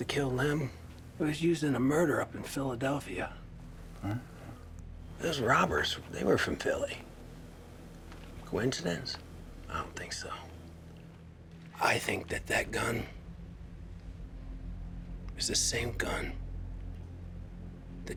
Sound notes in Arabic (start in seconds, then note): 4.0 يتمتم; 13.4 موسيقى متوترة